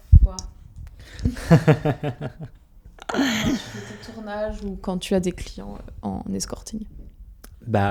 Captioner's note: laughs